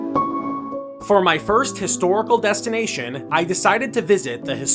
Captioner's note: voiceover